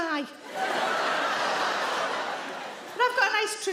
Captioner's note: audience laughing